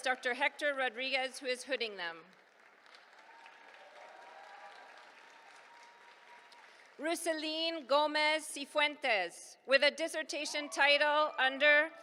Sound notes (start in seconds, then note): 2.0 applause